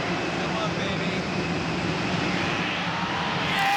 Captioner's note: people cheering